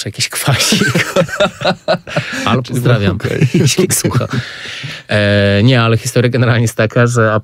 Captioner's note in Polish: śmiech